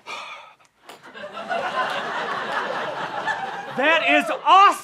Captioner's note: breathes heavily